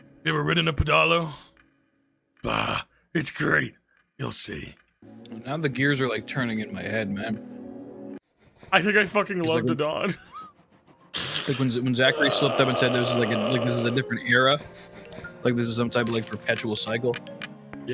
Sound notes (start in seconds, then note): 12.0 laughs